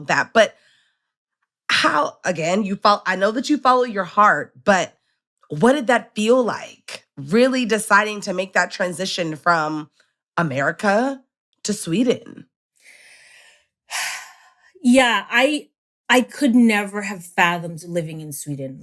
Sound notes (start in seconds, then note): 12.8 exhales